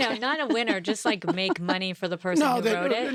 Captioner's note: laughs